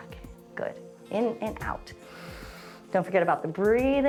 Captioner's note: inhales